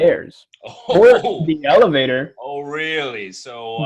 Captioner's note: mac scoffs